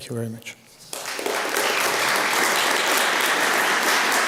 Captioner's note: applause